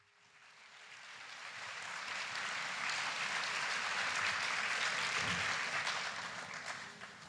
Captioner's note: applause